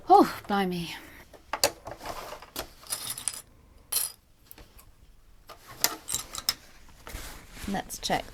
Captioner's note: clips rattling